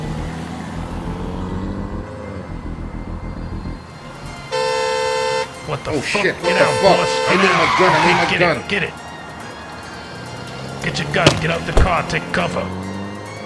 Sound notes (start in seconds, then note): 0.1 car revs; 4.4 horn beeps; 7.8 tires screech